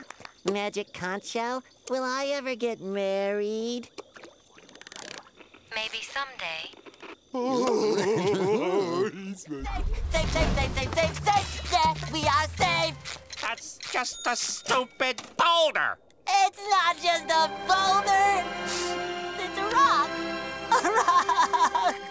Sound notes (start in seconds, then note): 7.4 laughing